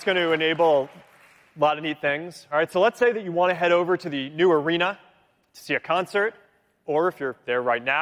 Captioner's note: cheering